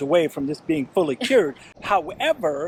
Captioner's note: laughs